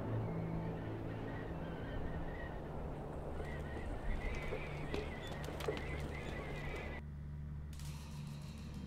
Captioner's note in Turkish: Rüzgâr sesi